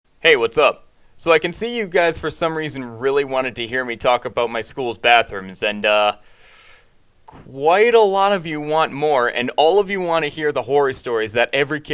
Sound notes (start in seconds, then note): 6.2 sucks in with passion and fear